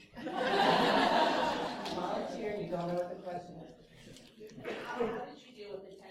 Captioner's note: laughter